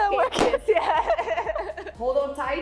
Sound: both laughing

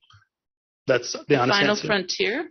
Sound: laughing

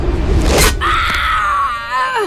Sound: screaming

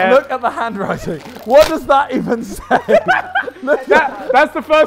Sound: laughs

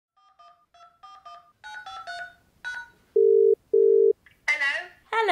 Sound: phone dial and ring

